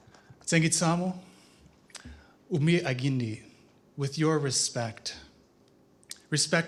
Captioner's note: non-english speech